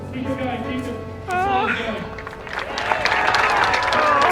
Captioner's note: crowd cheering and clapping